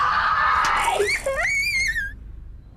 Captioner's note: baby crying